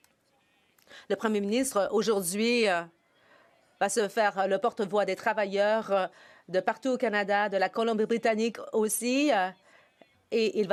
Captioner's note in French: voix de l'interprète